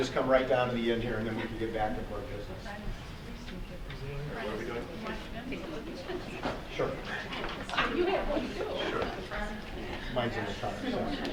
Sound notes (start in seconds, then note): 6.8 audience murmuring